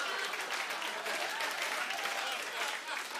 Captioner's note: laughter and applause; cheering